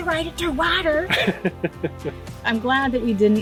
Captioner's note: laughing